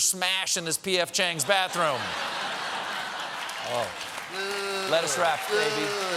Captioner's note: laughter